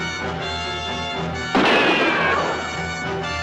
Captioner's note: gunshot